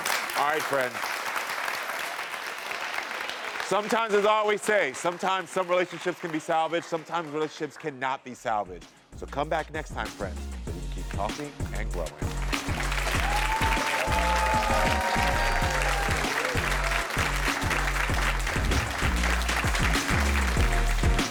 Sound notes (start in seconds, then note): 12.2 audience applauding; 12.6 upbeat music